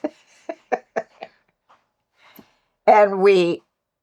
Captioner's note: laughter